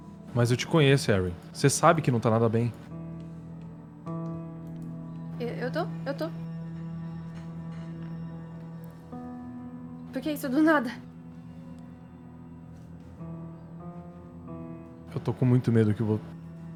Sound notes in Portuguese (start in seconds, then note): none